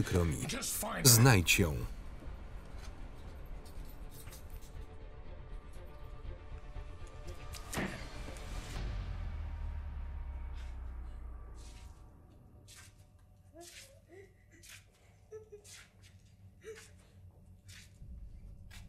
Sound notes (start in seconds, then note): 7.5 smacking; 10.8 girls crying